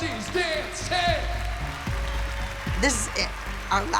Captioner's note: cheering